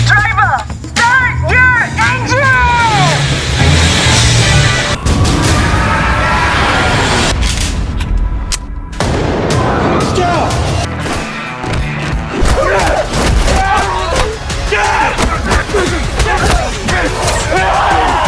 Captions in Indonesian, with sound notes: Driver, start your engine. [berteriak]